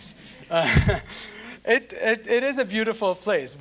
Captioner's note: all chuckling